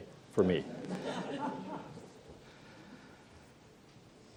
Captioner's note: laughter